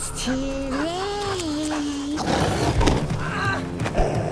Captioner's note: maniacal laughter